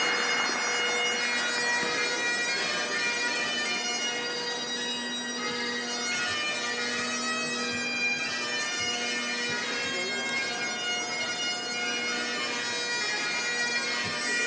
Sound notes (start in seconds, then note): 0.3 bagpipes music blaring; 9.4 background chattering